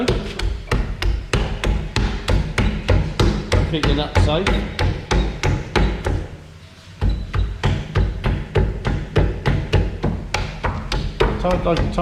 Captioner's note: noise from hitting the wheel